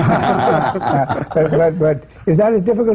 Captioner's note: laughter